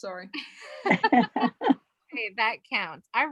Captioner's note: loud laughs